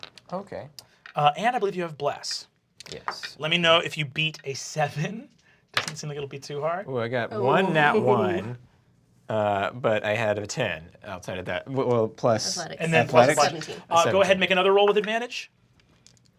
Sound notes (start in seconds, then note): 5.5 laughs; 5.8 rolls dice